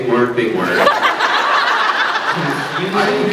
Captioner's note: laughs